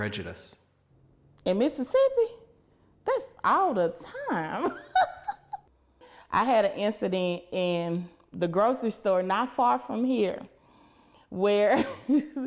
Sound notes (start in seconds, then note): 4.6 laughter